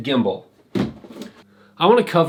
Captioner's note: shuffling